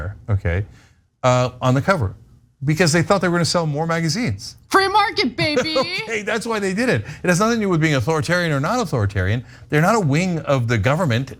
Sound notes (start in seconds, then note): 5.2 laugh